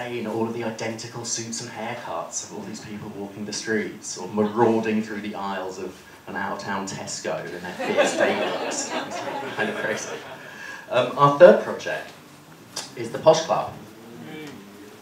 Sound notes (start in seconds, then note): 7.6 laughter